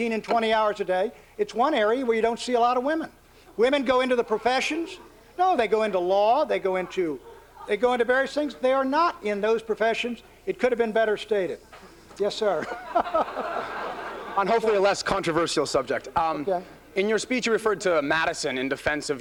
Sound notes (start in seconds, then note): 12.5 laughter